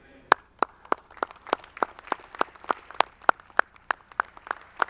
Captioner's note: audience clapping